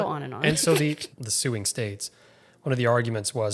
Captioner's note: chuckles